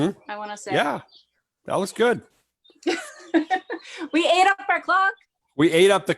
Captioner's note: laughs